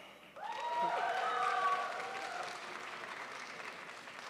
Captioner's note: audience applauds